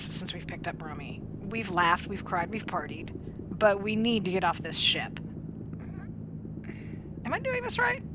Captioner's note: grunts